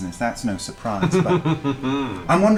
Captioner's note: chuckles